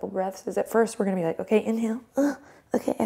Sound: groan

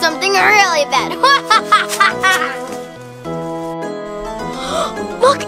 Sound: Evil Assistant laughs

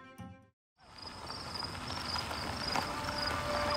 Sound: tires on gravel

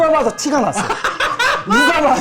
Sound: laughing

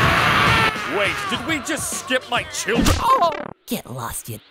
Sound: MarioPowerDown.mp3

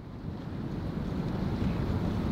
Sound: urban sounds

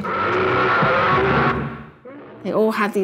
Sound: Trog roaring

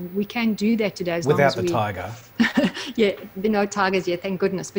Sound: laughs

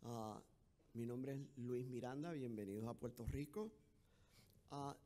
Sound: speaking in foreign language

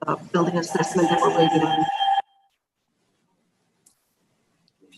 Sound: echo squelching

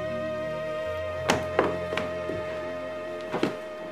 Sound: footsteps thudding

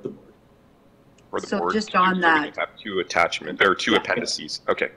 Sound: mutters

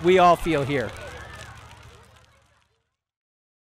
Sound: bonfire crackling

